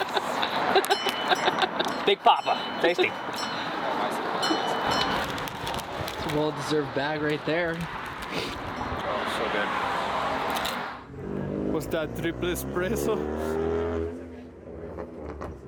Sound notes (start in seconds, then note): 4.3 bell ringing